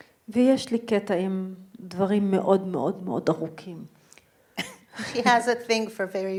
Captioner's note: speaking in foreign language